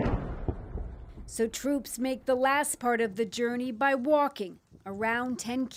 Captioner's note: explosion